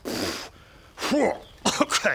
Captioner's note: pffph